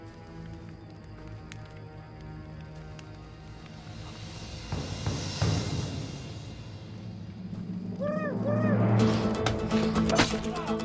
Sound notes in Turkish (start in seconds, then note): 0.0 Müzik - Gerilim; 7.0 Kuş sesi; 8.6 Müzik - Hareketli